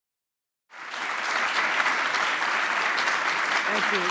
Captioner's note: applause